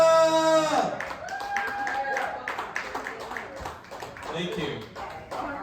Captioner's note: audience cheering and clapping